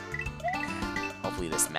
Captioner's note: sigh